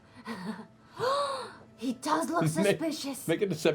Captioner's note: gasps